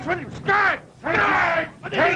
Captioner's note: commotion